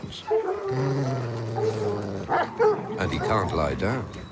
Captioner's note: growling